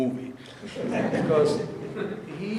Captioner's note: audience laughing